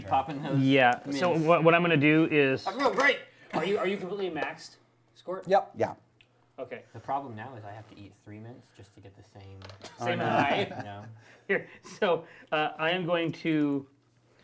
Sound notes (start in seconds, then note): 10.0 laughing